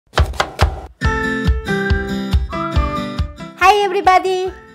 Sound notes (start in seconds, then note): 0.1 chopping sounds; 0.1 upbeat music